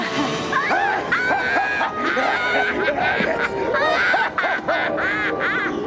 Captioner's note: both laughing